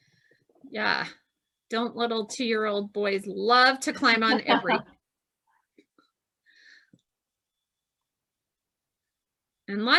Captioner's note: laughs